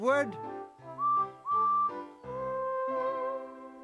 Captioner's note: whistle toots